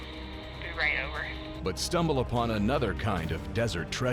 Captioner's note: on 2-way radio